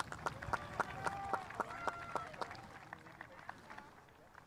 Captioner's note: spectators applauding